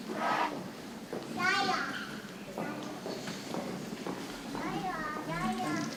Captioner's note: people chattering softly